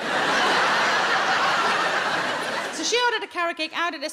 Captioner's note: audience laughing